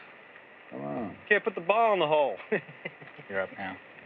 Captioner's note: chuckles